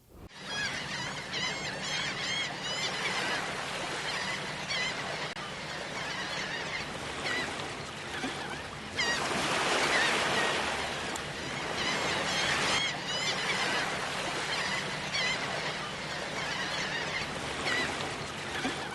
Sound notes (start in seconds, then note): 0.7 seagulls cawing